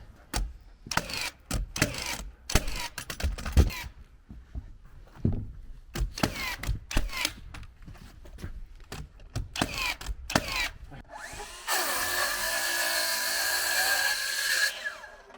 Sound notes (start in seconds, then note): 0.8 nail gun clicking; 11.0 saw whirring